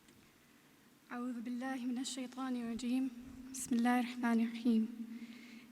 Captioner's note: speaking in foreign language